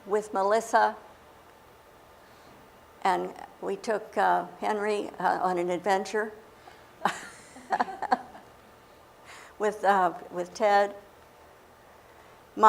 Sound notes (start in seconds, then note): 7.0 laughter